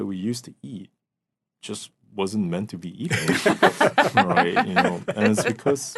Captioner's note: laughing